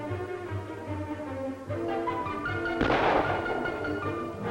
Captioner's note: gunshots